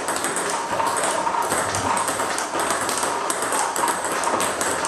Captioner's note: ball ping pong hitting continues